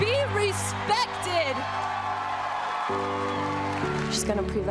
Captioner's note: cheers and applause